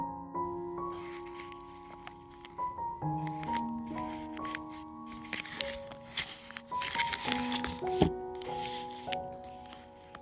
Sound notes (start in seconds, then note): 4.1 sound of string and brown paper